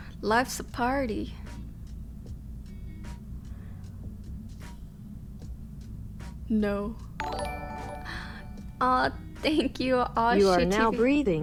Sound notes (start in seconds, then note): 7.2 notification tingling